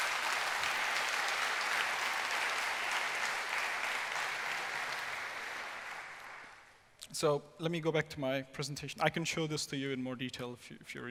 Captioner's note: applause